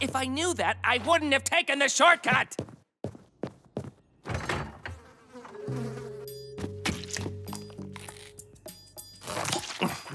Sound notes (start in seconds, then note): 4.9 flies buzzing